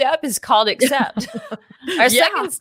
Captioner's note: laughs